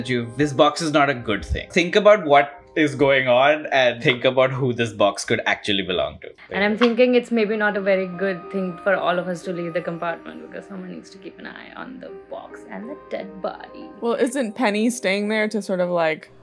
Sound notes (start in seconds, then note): none